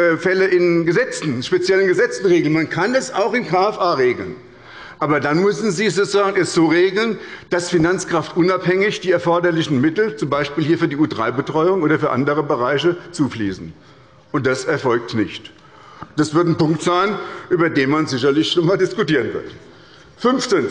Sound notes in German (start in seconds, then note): none